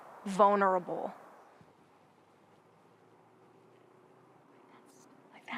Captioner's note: wind rushing softly